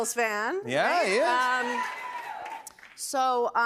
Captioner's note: scattered cheers